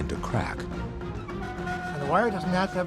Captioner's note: creaking